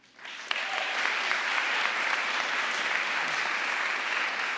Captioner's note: audience applauding